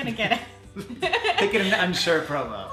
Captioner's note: both laughing